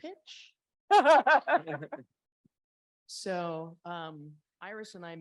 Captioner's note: laughs